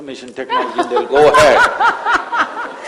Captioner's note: laughter